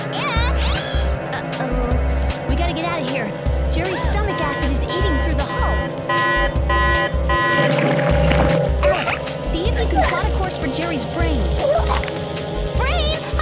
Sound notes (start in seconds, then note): 6.7 siren beeping